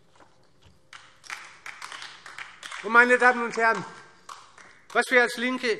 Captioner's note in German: Beifall